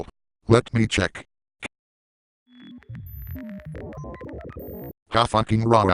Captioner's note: keyboard Sounds